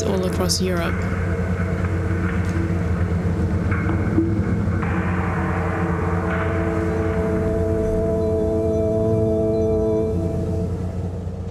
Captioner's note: engine humming overlapped by ominous music